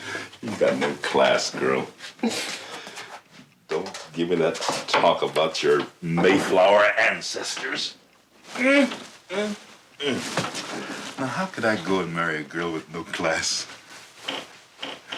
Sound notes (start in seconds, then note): 9.6 bed creaking